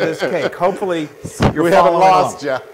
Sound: laugh

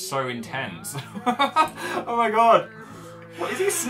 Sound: terrified laughter

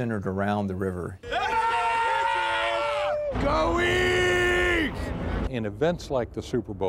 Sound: yelling

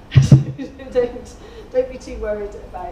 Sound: laughing

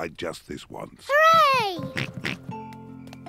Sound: oinks

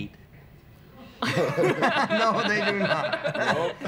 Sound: laughter

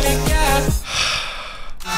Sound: sigh

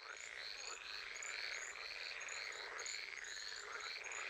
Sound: frogs croaking

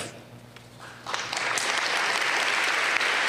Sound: applause

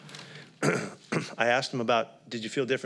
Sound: coughing

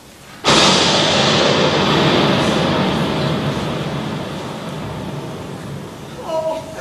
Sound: thunder

